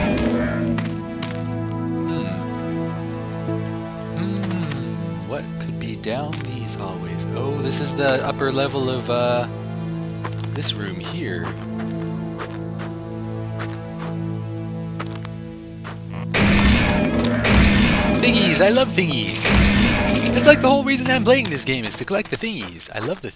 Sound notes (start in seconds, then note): 14.5 pots breaking; 19.6 pot breaking